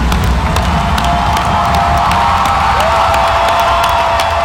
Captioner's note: audience cheering